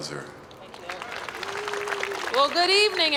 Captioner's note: applause